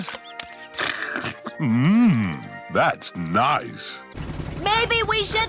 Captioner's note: slurps